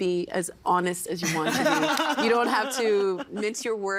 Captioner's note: laughing